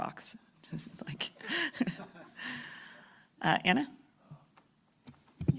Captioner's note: laughter